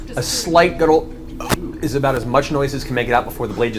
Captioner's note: gurgles